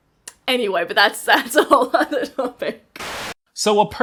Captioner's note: laughs